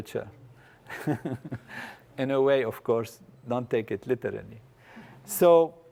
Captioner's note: laugh